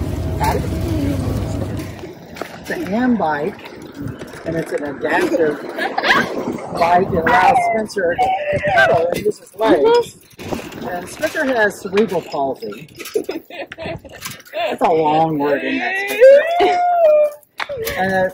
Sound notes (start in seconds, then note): 12.8 laughs